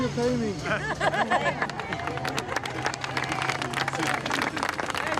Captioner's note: crowd claps